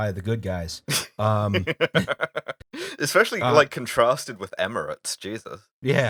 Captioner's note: laughter